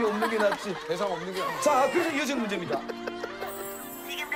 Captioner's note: bursting into tears!